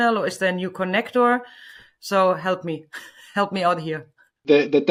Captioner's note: laughs